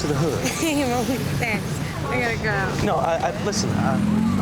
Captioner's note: chuckles